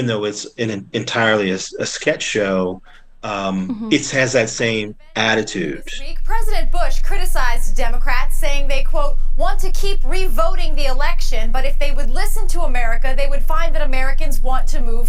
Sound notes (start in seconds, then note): 3.2 soundbite of tv show, "saturday night live"